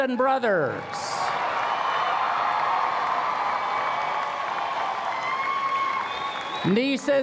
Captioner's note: cheers and Applause